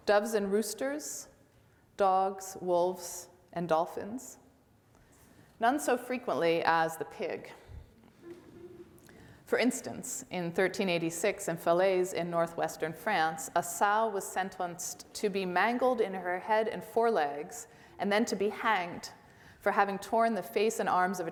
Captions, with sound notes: doves and roosters, dogs, wolves, and dolphins, none so frequently as the pig. (audience laughs) For example in 1386 in Falaise, in Northwestern France, a sow was sentenced to be mangled in her head and forelegs and then to be hanged for having torn the face and arms